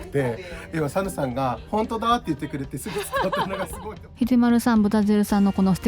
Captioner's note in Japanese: 一同の笑い声